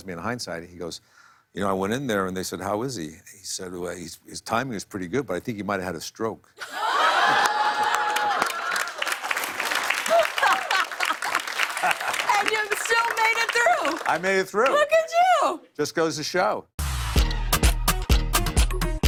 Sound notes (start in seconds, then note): 6.6 laughter and applause